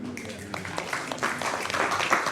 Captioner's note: applause